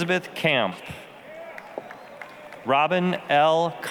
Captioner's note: applause